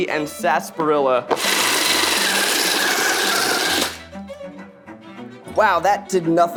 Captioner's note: food processor whirring; orchestra music continues